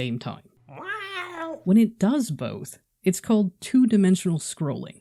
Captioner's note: cat whining